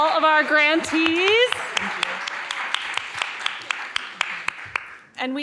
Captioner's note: audience clapping